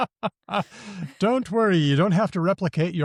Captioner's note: laughs